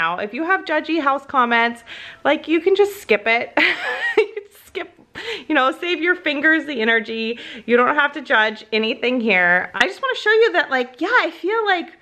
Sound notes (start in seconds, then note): 3.6 laughs